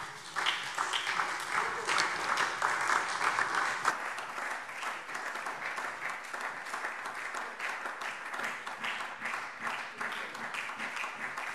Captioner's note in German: Beifall SPD und DIE LINKE